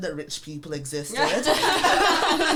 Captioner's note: all laugh